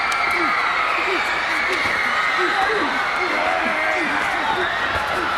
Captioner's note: crowd cheering; wrestlers grunting